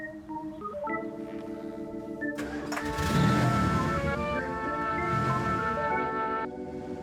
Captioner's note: quirky organ music; engine rumbling